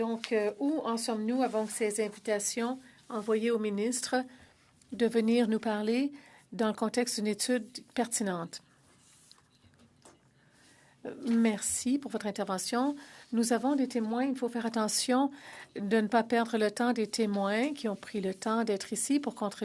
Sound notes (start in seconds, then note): 4.7 speaking French